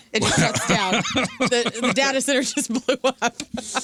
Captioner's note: laughing